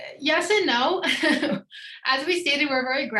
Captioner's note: laughs